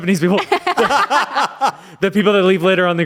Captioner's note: everyone laughs